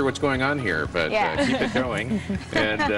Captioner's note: laughter